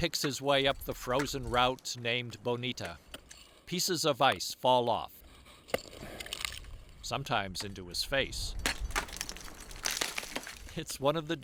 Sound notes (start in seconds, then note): none